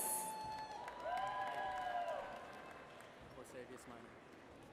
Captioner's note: audience cheers